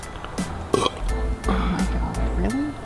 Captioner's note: Belch